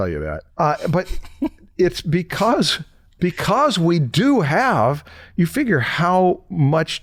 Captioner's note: chuckles